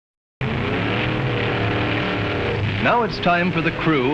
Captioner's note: hot rods revving